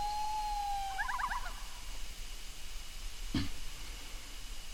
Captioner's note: animals chattering